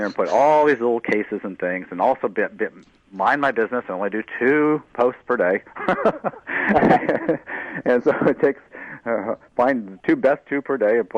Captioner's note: laughter